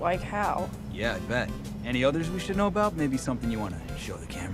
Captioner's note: clearly dubbed